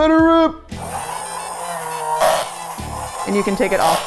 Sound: milkshake machine whirring

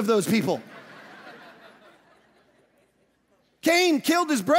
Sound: audience laughing

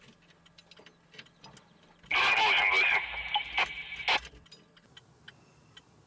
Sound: radioset sounds

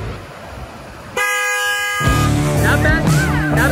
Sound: honking

